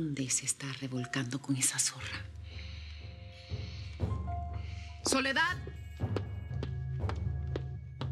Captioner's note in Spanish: exhala